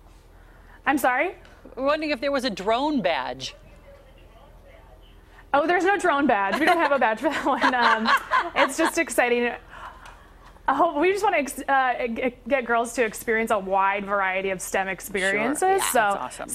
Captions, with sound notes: IS THERE A DRONE BADGE? [ LAUGHTER ] I'M SORRY? WE WERE WONDERING IF THERE WAS A DRONE BADGE?